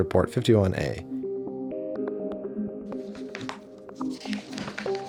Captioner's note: papers rustling